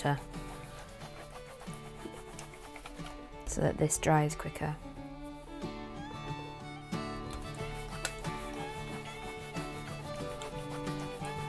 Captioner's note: iron sizzles